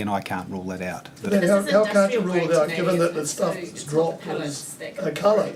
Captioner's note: voices off camera